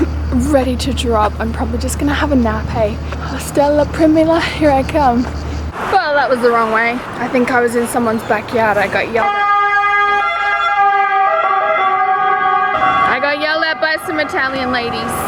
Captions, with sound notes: I'm ready to drop. I'm probably just gonna have a nap, hey. Hostel La Primula, here I come. Well, that was the wrong way. I think I was in someone's backyard. I got yelled at-- (siren) I got yelled at by some Italian ladies